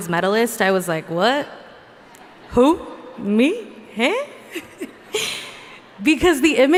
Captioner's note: laughs